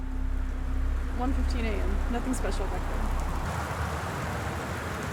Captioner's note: loud Rainstorm Starts